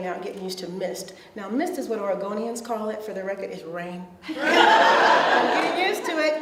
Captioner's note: audience laughs